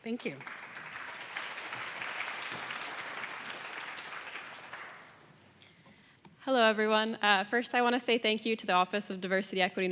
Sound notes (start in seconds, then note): 1.7 audience clapping